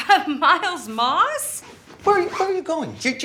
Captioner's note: chuckles